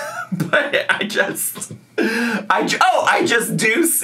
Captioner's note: laughs